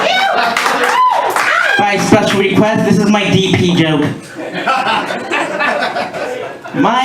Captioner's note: laughter